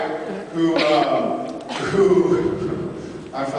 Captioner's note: laughs